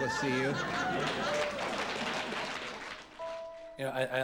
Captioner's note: crowd applauding